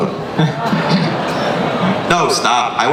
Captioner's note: laughter